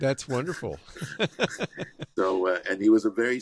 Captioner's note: laughs